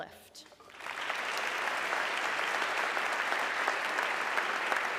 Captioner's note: audience clapping